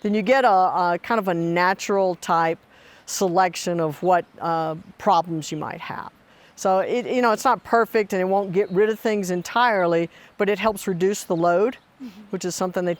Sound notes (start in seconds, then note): none